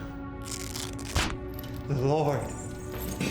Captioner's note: buckles rasping